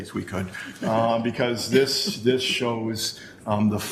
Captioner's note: chuckle